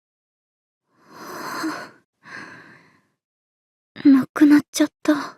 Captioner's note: exhales